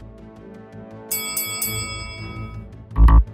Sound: bell dinging; buzzer buzzing

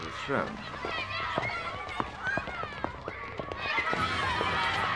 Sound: children yelling distantly

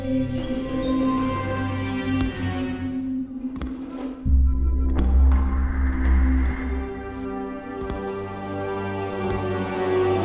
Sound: footsteps approaching

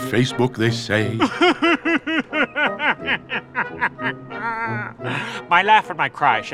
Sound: crying

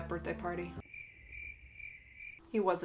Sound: crickets

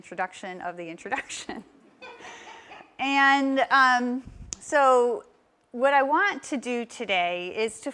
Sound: laugh

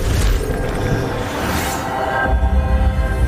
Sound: none

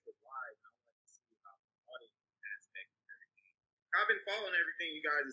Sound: speaking faintly

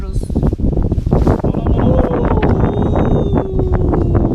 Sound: wind blows strongly

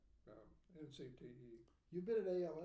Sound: speaking faintly

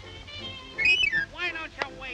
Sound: whistles

